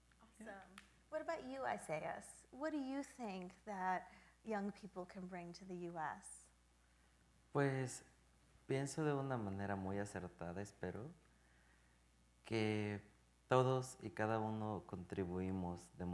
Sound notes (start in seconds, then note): 7.6 speaking in Spanish